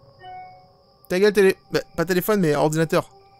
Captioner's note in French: Sonnerie